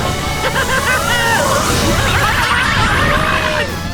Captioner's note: yelling